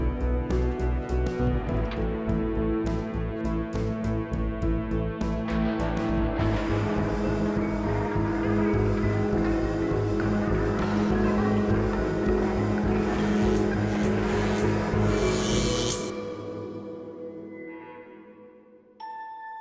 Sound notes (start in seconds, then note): 14.0 electricity zapping